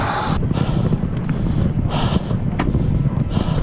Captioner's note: panting